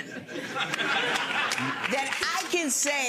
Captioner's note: audience laughing